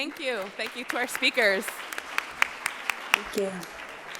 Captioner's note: audience applauds